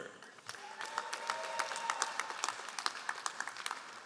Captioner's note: all applauding